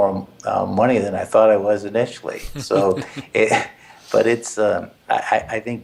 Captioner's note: laugh